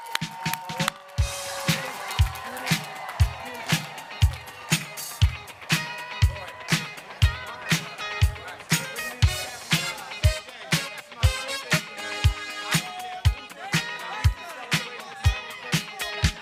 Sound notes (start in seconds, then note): 4.9 applause